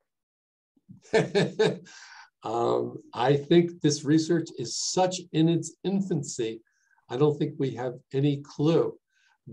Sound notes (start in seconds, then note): 1.0 laughs